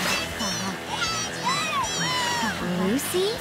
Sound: cheering

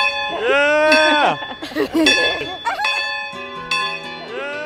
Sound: bell ringing; laughter

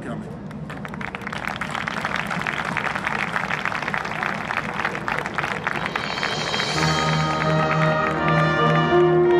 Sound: applause

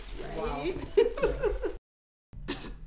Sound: laughs

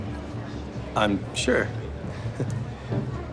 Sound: rhythmic string music; laughing

